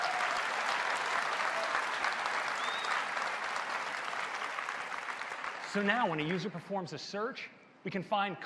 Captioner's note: applause